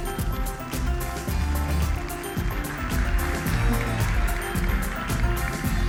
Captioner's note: applause